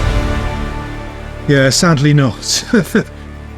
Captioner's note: laughs